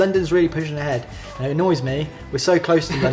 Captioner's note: laughs